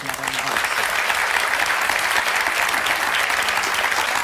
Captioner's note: applause